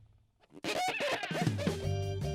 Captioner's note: squeaking